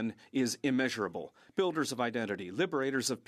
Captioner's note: speaking French